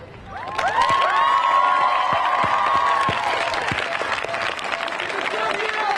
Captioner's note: crowd cheering; crowd applauding